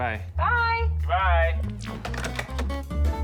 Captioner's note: receivers clatter